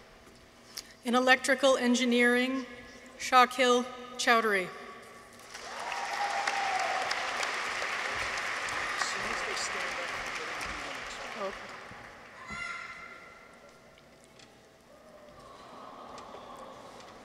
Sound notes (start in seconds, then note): 5.4 audience applauds; 5.5 people cheer; 12.3 child shouts